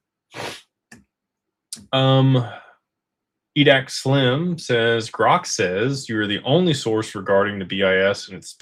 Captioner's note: snorts